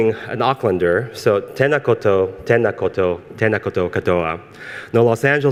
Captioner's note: speaks foreign language